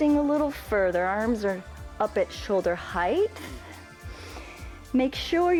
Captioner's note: inhales